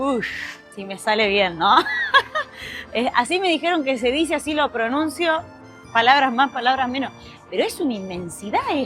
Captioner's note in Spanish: risas